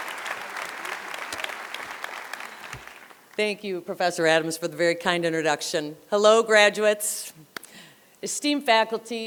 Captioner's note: applause